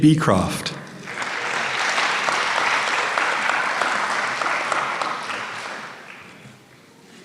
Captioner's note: applause